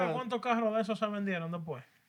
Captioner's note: non-english Speech